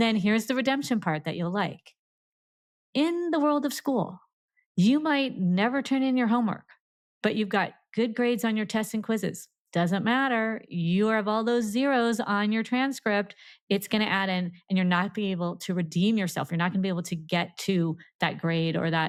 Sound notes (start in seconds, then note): none